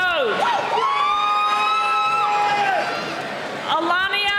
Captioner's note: cheering